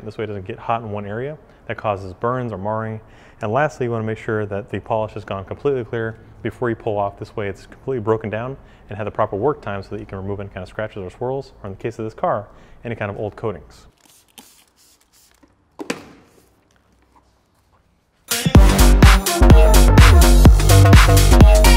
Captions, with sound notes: this way it doesn't get hot in one area. That causes burns or marring. And lastly, you wanna make sure that the polish has gone completely clear before you pull off. This way it's completely broken down and had the proper work time, so that you can remove any kind of scratches or swirls. Or in the case of this car, any kind of old coatings. (product spritzing) (upbeat techno music)